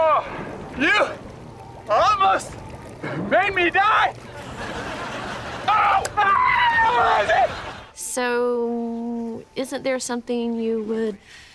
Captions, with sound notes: You... almost... made me die! [screaming] So, isn't there something you would...